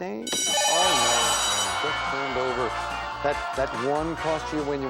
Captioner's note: bell; beep